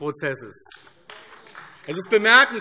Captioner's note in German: Beifall AfD